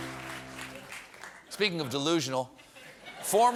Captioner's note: laughter